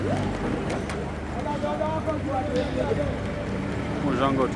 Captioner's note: speaking foreign language